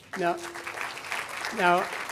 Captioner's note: audience applauding